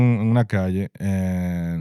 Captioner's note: speaking In Foreign Language